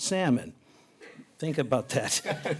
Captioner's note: laughter